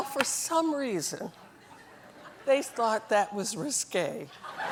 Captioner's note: laughter